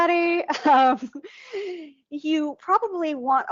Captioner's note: chuckling